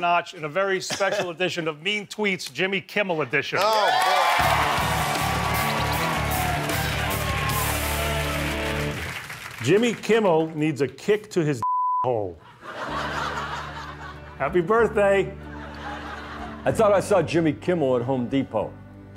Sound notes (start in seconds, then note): 3.6 cheering